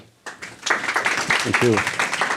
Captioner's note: audience clapping